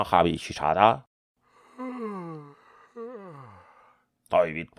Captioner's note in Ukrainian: зіває